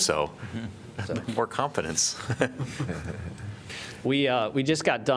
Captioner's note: laughter